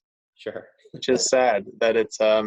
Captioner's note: chuckles